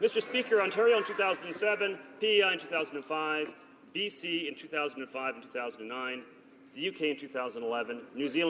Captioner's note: some Applause